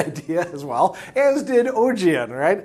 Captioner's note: laughing